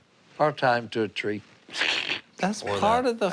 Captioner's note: chuckles